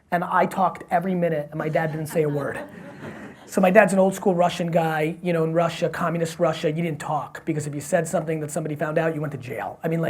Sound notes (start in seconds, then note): 1.6 audience laughs